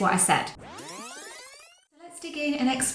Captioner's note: tape screeching